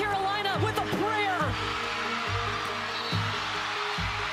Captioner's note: cheering